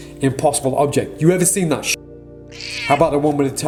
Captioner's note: cat meows